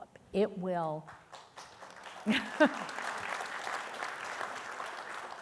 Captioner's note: audience applauding